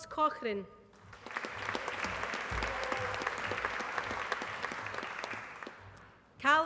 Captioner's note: applause